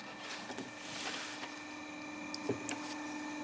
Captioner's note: machine whirring